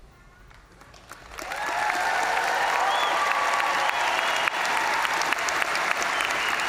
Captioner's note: crowd applauding; crowd cheering